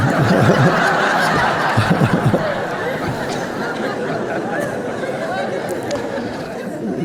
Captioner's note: Eckhart chortling faintly; Eckhart laughing; audience laughing